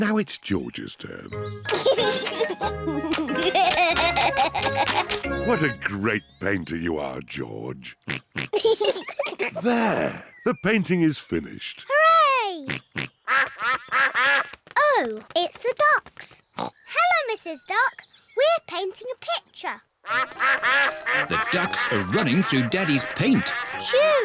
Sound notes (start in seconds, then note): 1.7 chuckles; 12.6 quacking; 20.0 quacking